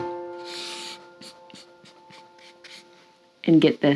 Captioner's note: pen scribbling